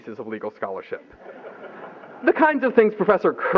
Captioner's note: laughter